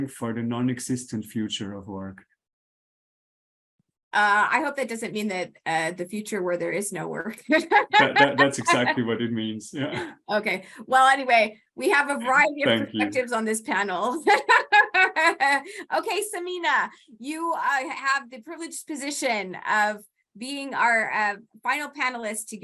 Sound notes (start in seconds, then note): 7.4 laughs; 13.7 laughs